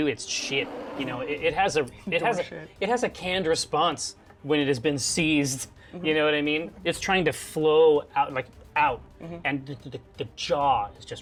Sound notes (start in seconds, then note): none